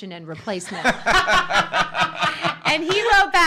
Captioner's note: laughing